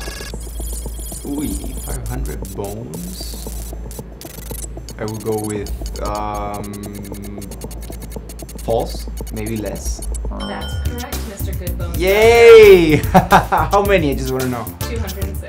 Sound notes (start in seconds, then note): 0.1 futuristic beeps and whirs; 10.4 high pitched bell dings; 12.8 laughs